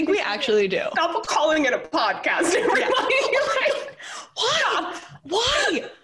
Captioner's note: laughter